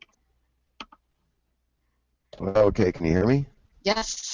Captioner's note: voiceover